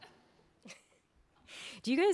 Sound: laughing

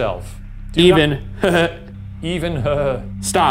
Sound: chuckles

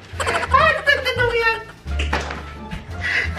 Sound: laughing

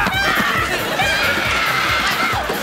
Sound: screaming

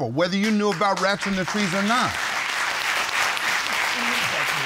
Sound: audience applaud

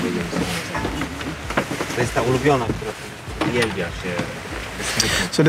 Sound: sailors speaking Polish

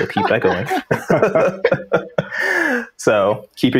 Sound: laughter

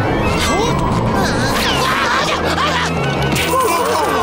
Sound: screaming

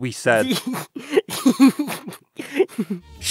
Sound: giggling

